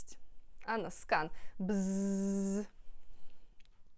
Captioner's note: bzzzzzz